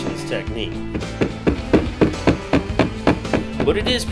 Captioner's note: hammer banging